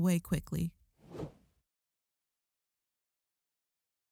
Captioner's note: transition whooshing